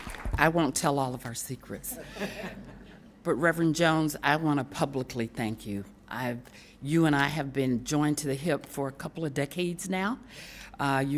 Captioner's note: applause